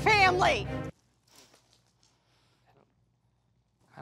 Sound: wine splashes

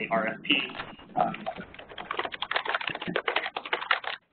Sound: noisy clacking

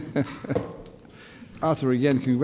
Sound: laughs

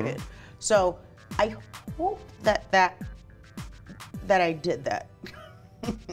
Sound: chuckles

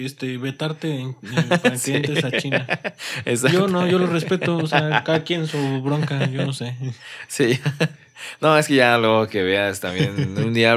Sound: laughs

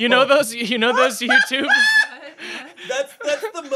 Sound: laughs

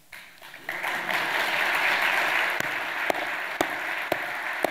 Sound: audience applauding

